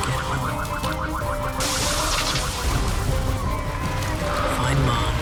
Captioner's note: survivors crying on the broken road as they keep running, sirens wailing